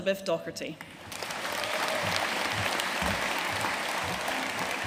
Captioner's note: audience applauding